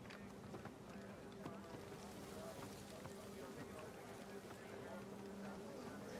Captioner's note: soldiers chattering faintly